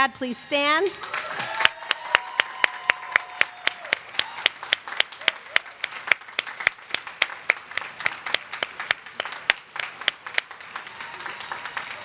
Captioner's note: applause